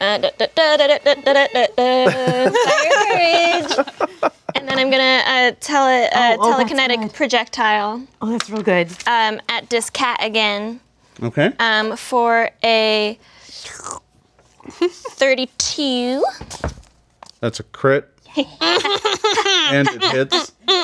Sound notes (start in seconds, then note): 2.6 all laughing; 13.6 slurps